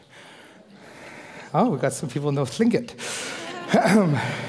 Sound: foreign speaking

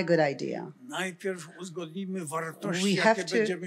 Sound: foreign language

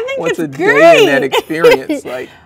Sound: laughs

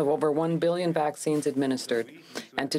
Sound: speaking french

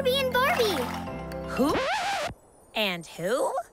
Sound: disc scratching

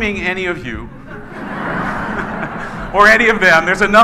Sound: laughing

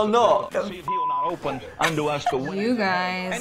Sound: laughs

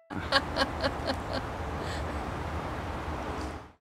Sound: laughing

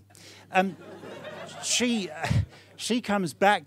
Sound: audience laughing

